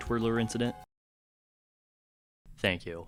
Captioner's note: moment of silence ensues